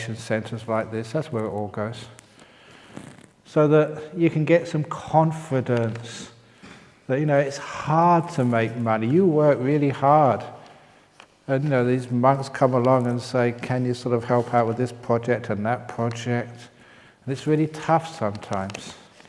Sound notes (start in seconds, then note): none